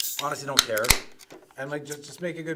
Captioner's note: cracks beer open